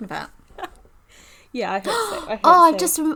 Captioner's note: gasps dramatically